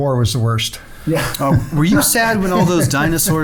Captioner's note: laughing